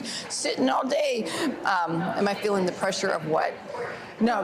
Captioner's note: laughs